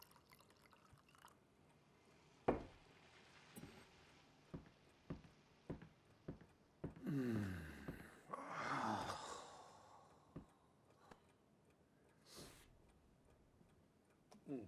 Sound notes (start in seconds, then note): 7.0 sighing; 12.6 clock ticking